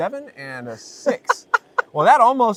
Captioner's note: laughter